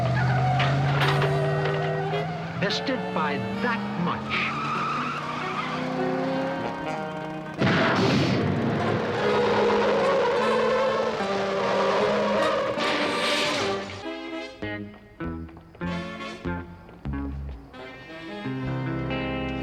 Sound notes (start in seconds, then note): 0.0 engine rumbles; 0.4 clattering; 4.3 tires squeal; 7.5 booming; 8.8 tires squeal; 10.5 tense music; 12.5 clattering; 15.0 tense music